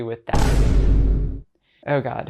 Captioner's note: slam